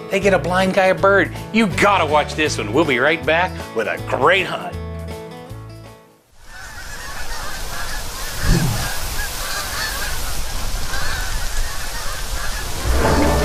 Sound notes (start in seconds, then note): 6.4 geese Honking